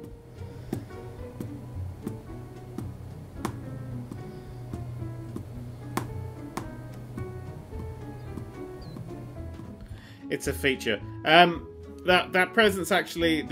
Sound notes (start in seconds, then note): 0.6 tap; 3.4 tap; 5.8 tap